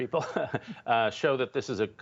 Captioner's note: laughter